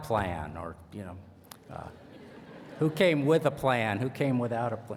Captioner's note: laughter